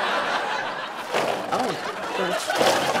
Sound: audience laughter; forcefully unrolling ribbon

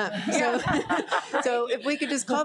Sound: people laughing

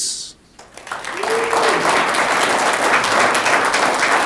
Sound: audience clapping

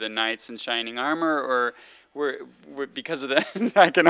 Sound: laughs

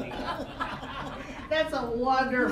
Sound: all laughing

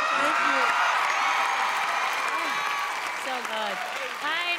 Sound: crowd cheering

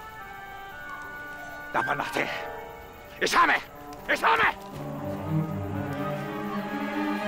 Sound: yelling in foreign language; rising crescendo

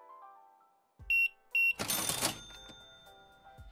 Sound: beeping

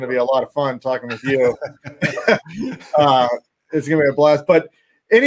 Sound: chuckles

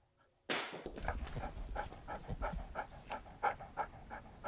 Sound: ball hitting the floor; dog heavy panting

